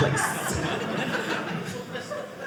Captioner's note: audience laughing